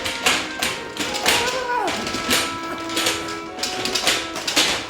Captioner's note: chair rattling; Sarra moaning